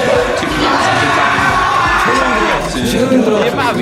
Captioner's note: aggressive shouting